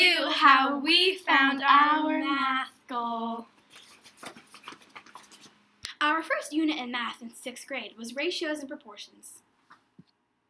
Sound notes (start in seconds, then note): 3.4 quiet shuffling noises